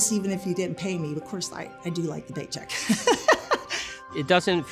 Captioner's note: laughs